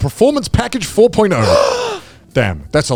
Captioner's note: gasps